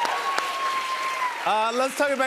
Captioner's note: cheers and applause